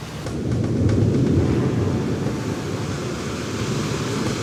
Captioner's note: thunder rumbling; waves crashing